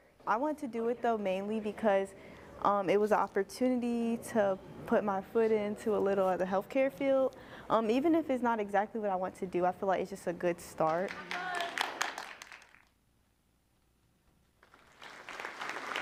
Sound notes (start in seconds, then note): 10.9 applause; 14.6 applause